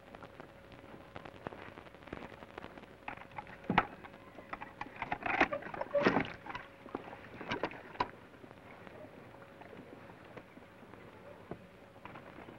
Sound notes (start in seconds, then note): none